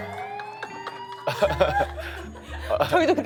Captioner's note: haha